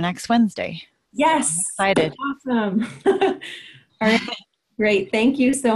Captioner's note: laughs